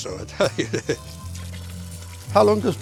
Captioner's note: laughing